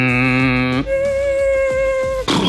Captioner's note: Mark imitates blender; Heidi imitates blender; James imitates blender